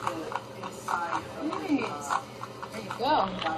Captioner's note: patrons talking